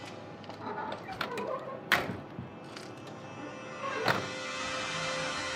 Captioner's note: car door squeaks